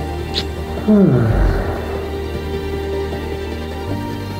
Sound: Bigfoot growls happily

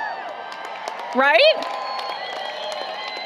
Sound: applause, Cheering

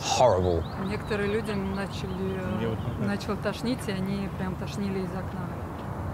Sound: speaking in foreign language

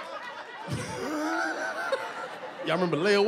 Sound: laughs

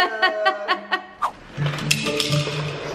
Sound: laughs; playful music

